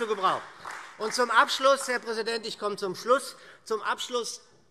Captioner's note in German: Beifall SPD und Freie Demokraten